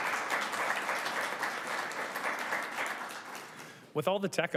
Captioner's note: councillors and audience applauds